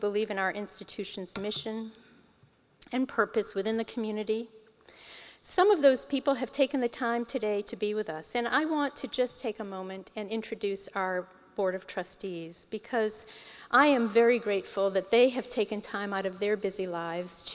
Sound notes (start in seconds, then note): none